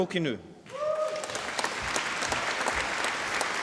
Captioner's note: applause